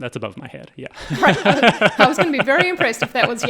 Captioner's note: all laughing